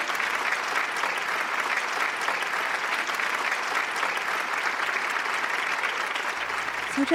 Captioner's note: audience clapping